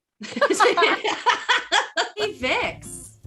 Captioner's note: laughing